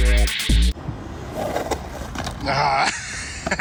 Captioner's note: skates scraping on ground; laughing